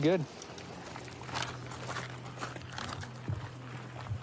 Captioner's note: footsteps crunching